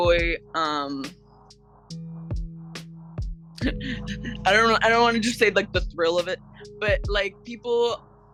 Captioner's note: giggles